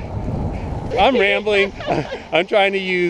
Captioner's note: laughing